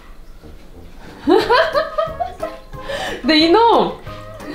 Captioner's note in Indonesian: tertawa